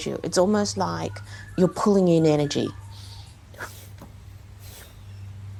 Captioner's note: audible exhalations continue